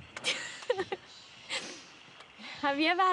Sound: laughter

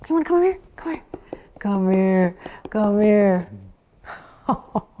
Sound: yawns; laughs

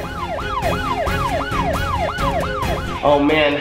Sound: sirens

